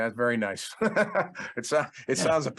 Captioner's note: laughing